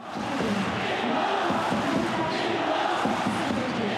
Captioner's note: crowd cheering